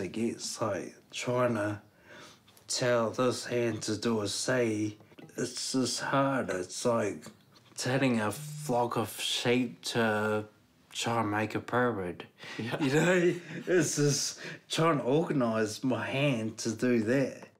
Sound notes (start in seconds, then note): 12.5 chuckles